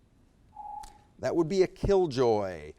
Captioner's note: timer beeps